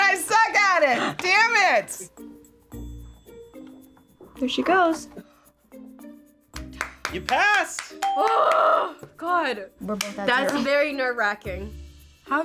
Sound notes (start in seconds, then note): 8.0 bell rings; 10.2 laughs